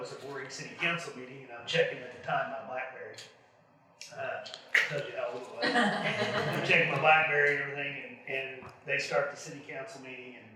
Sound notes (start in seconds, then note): 5.6 audience laughs